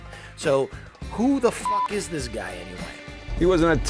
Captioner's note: beep